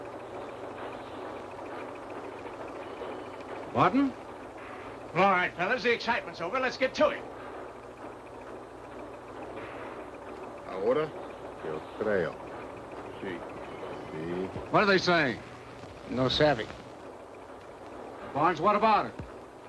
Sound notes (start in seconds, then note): 10.0 men speaking in Spanish